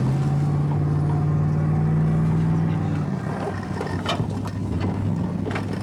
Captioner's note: engine vrooming